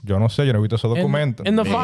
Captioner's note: speaking In Foreign Language